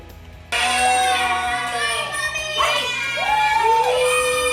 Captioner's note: all shouting